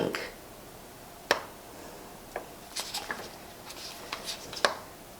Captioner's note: syringe sucks ink